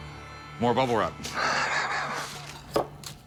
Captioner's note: laughs